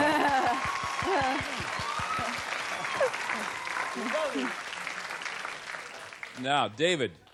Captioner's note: applause